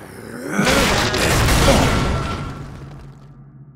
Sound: crash in the background

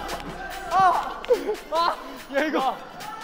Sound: panting

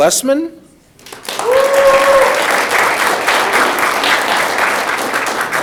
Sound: audience clapping

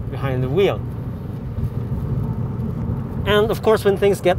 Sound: engine sounds

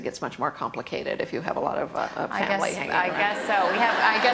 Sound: laughter

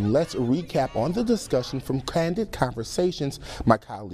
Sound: chanting

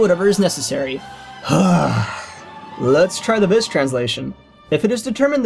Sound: exhales

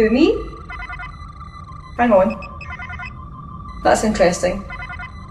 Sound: alarm

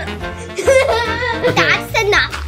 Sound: child laughing

